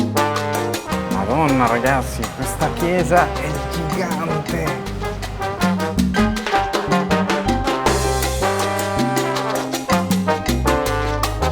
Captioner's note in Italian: Applauso